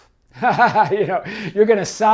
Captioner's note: laughs